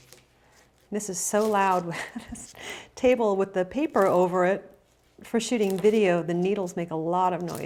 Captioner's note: laughs